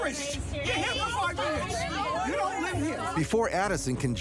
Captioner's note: people arguing